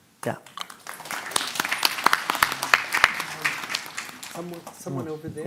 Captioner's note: applause